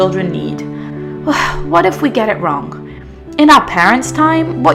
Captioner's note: sighs